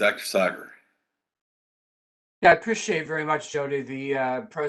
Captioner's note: chuckles